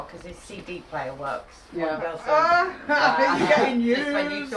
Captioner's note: laughs